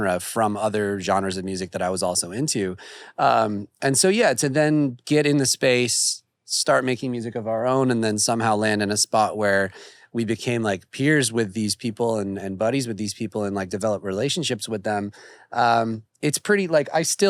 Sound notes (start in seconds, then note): none